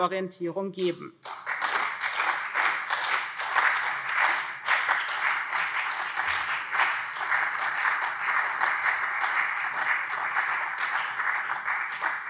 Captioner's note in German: Beifall SPD und CDU